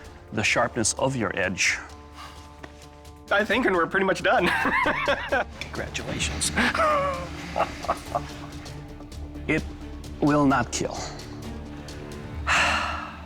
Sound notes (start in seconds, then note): 4.5 laughs